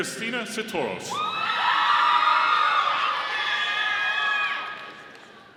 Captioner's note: audience applauding